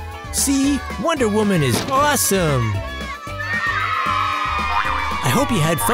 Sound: cheers

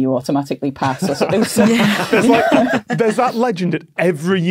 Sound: group laughing

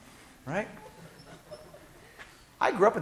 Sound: class laughing

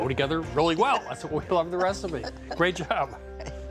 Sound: laughter

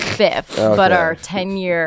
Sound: laughs

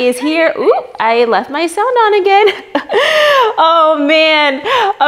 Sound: chuckles

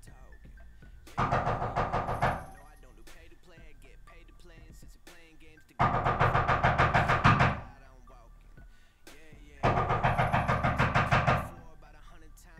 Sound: persistent knocking on the front door

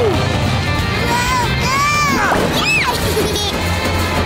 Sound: babbling; cheering

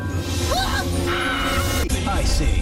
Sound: screaming

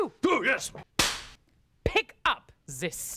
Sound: cracks pointer

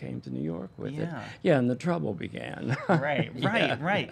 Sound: chuckles

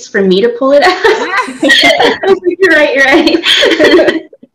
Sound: laughter

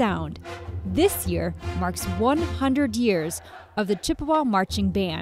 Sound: rhythmic tapping

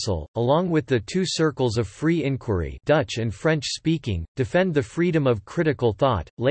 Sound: dutch and French speaking

